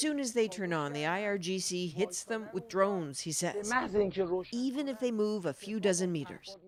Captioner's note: speaking alternate language